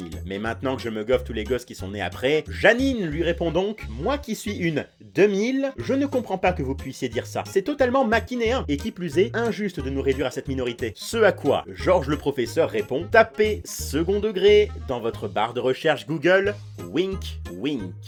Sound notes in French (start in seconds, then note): none